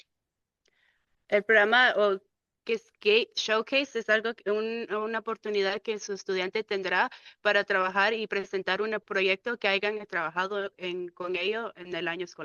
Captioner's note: speaking in Spanish